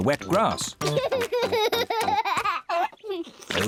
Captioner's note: laughing